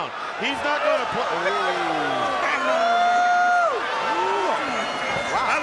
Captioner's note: Bobby groaning